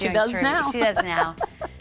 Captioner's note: laughing